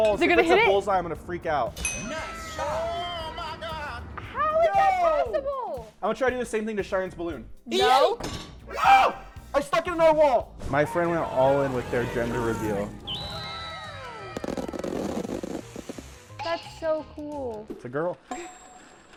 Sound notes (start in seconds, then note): 1.8 bell ringing; 12.9 fireworks popping; 13.1 observers exclaiming